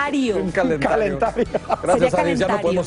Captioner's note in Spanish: risas